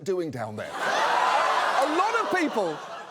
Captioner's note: audience exclaims